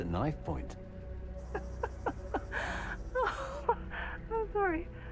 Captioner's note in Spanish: Risas